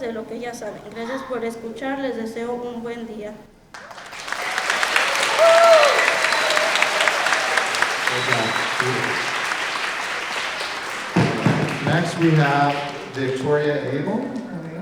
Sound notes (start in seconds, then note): 1.4 speaking in Spanish ends; 4.2 everyone applauding